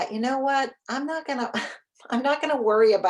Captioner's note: chuckles